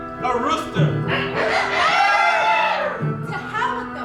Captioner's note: rooster crow